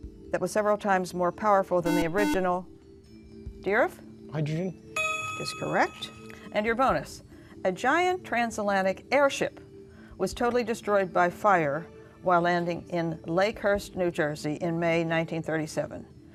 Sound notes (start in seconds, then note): 1.8 buzzer